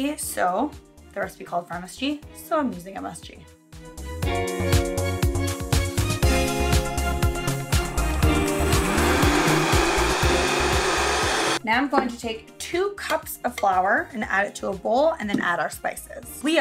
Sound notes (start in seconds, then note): 3.9 upbeat music; 7.8 blender whirring